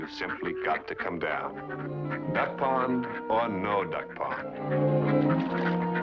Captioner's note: quacking